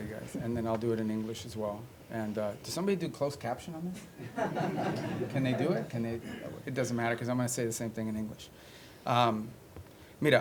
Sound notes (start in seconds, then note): 4.1 laughter; 10.1 spanish